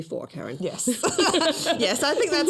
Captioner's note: laughter